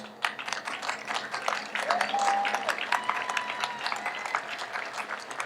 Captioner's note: audience applauds